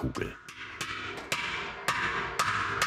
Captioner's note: bright hammer sound